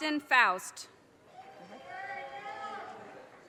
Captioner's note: audience cheers and applause